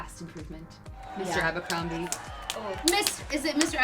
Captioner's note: claps